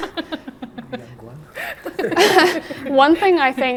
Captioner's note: laughs